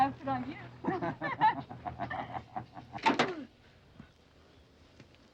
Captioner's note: man and woman laughing